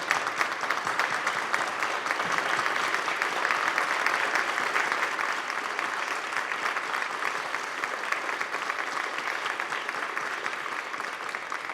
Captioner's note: applause